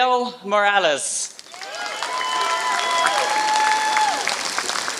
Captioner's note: applause